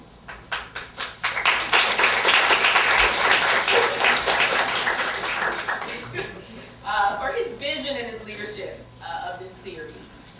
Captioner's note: applause